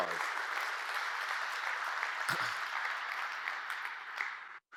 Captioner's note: audience applauds